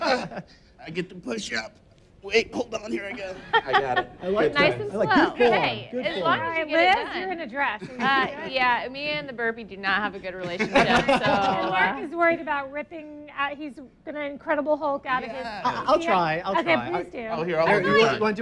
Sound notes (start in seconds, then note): 4.3 laughs